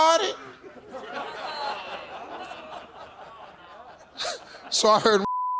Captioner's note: audience laughing